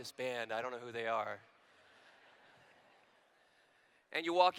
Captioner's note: laughter